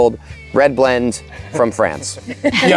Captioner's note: group laughs